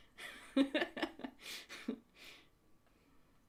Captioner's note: laughs